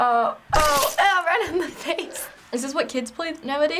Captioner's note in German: Blut spritzt